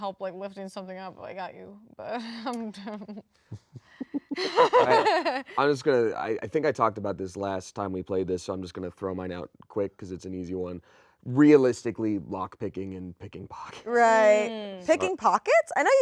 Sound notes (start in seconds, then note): 3.5 chuckle